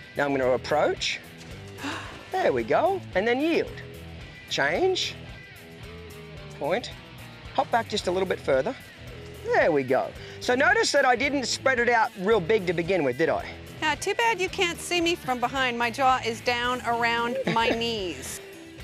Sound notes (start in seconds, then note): 1.7 gasps